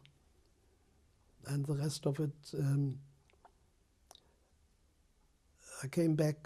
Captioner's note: pauses for 3 seconds